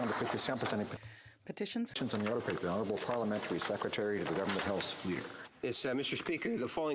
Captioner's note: applause